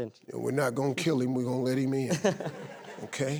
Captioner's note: laughing